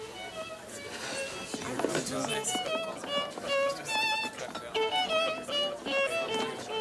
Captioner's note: people chattering; string music